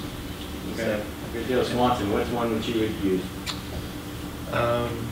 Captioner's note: voiceover